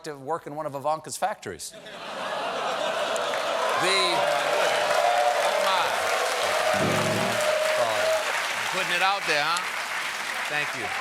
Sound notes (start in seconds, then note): 6.7 piano riff; 7.6 cheers and applause